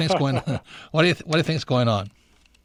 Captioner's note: both laughing